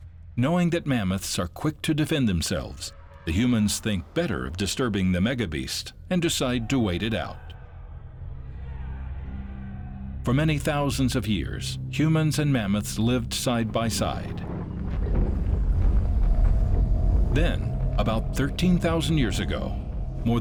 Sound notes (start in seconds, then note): 13.9 thundering footsteps